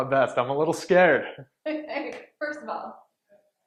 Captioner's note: laughing